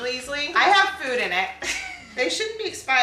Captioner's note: laughs